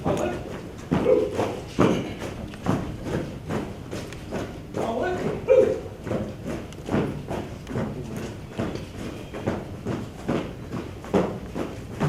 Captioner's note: marching footsteps